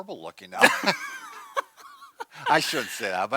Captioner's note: laughs